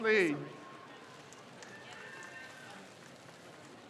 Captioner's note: crowd cheers